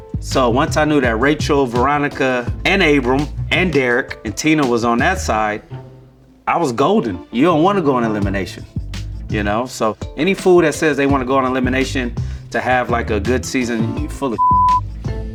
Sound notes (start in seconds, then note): 14.4 beep